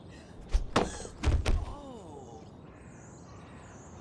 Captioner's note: cap thuds